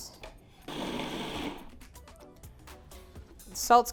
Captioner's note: grinding